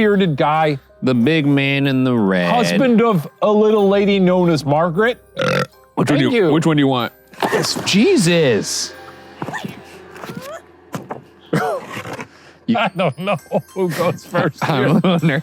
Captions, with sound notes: - The big bearded guy. - The big man in the red. - Husband of a little lady known as Margaret. - (burps) Which one do you want? Jesus. - I don't know goes first here? (laughs)